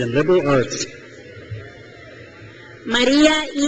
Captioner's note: crowd cheers